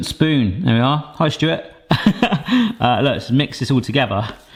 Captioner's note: chuckles